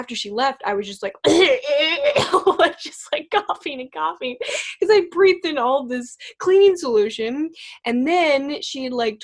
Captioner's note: coughing Sounds